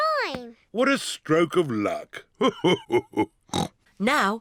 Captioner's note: laughs; snorts